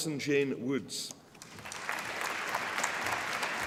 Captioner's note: applause